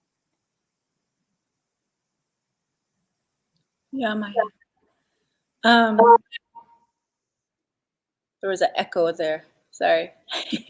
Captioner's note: speaking Dakota